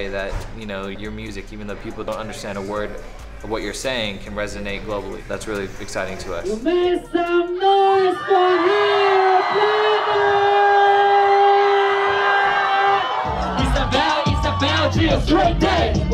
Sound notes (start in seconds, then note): 10.3 crowd cheers